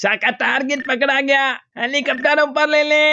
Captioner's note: none